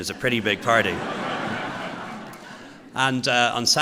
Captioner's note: laughter